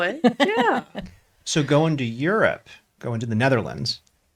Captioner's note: laughs